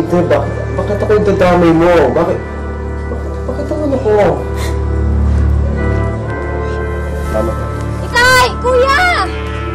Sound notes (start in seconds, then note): 4.5 sniffles